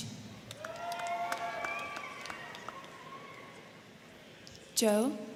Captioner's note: crowd clapping; crowd cheering